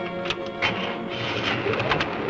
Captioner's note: car key rattling